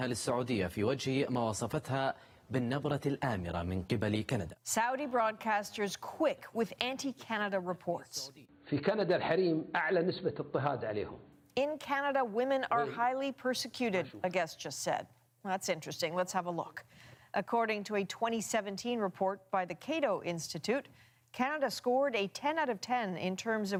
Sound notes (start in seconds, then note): 5.6 speaking foreign language